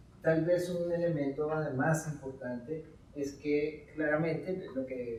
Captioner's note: speaking in Spanish